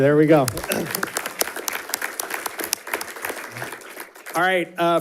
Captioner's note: audience applauding